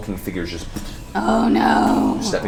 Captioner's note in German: dumpfe Schritte